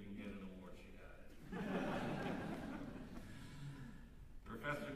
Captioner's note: laughter